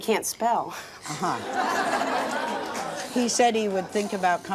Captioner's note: audience laughs